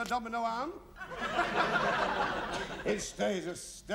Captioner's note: laughter